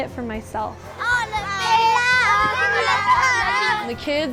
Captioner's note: children talking in Spanish